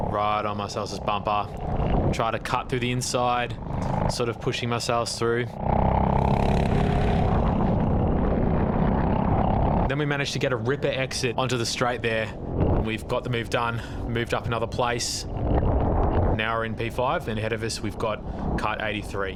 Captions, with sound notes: Right on Marcellus' bumper. Try to cut through the inside, sort of pushing Marcellus through. (engine revving) Then we managed to get a ripper exit onto the straight there. We've got the move done, moved up another place. Now we're in P5 and ahead of us, we've got cut 83.